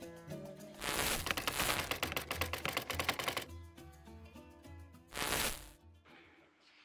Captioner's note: static crackling; keys clicking; static crackling